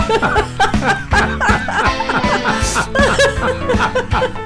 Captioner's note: laughing